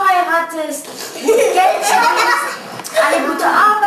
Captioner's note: laughing